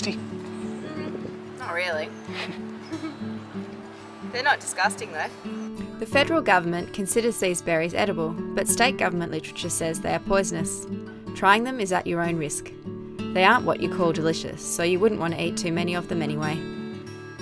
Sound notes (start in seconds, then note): 2.2 laughing